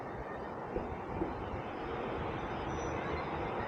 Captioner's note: none